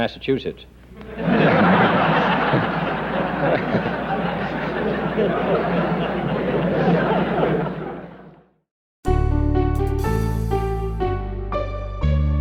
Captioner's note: group laughter